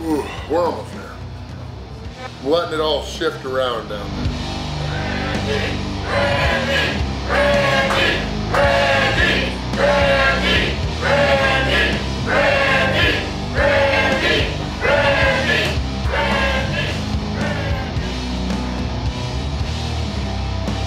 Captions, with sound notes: Oh, we're almost there. We're letting it all shift around them. (audience cheering) (slow rock music)